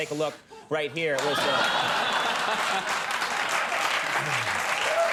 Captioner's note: audience laughing